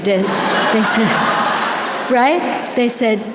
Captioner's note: audience laughter